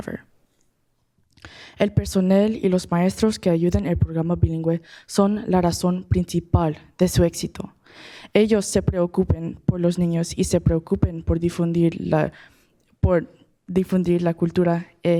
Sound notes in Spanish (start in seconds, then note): 4.6 habla español